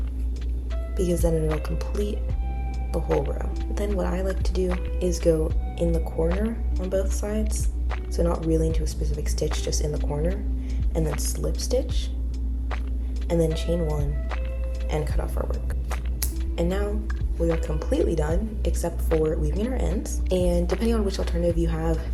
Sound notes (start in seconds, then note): 15.5 scissor cuts